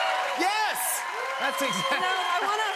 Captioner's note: cheers and applause